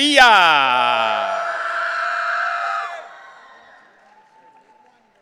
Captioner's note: audience cheering